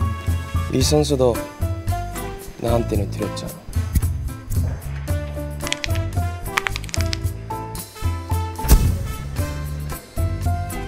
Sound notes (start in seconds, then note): 6.4 bone cracking ASMR